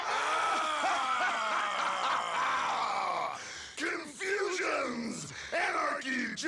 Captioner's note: masked man laughing